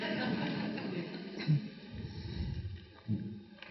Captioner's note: audience laughs